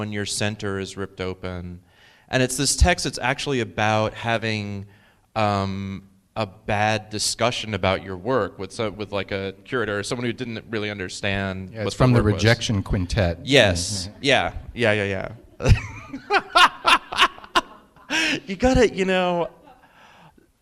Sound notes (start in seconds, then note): 15.2 laughing